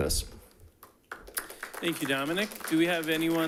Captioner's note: audience applauding